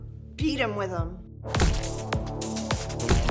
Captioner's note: splattering sound